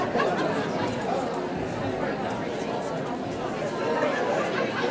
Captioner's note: audience murmurs